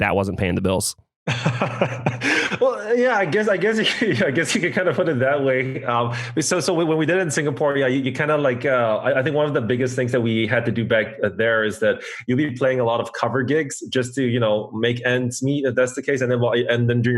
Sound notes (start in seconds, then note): 1.3 laughs